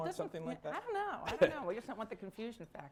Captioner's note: laughter